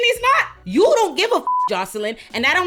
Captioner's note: beep